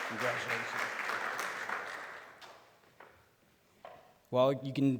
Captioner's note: applause